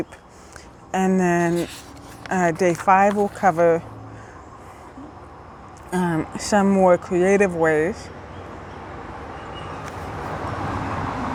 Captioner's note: truck passing